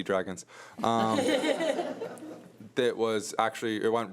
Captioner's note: audience laughs